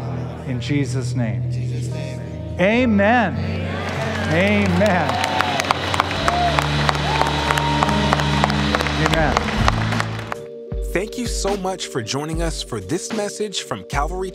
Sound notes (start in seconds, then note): 5.2 cheering and applause